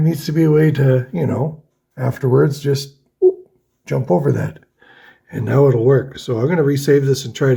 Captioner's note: boop!